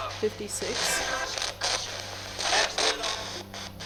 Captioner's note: spirit box voice